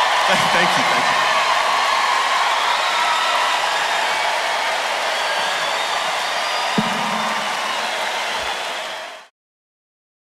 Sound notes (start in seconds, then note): 0.0 coughs; 2.1 audience claps, cheers